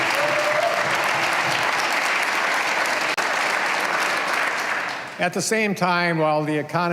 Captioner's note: cheers and applause